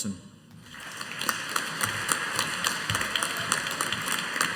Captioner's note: audience applauding